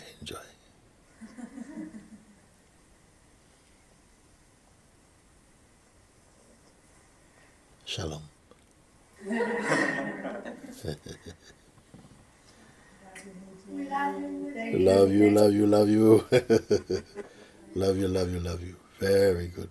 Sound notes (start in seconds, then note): 9.2 laughter